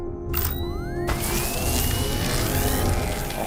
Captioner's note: powering up; electricity crackling